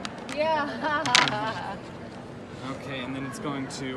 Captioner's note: laughs